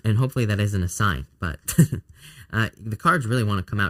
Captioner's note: chuckles